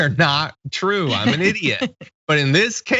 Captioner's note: laugh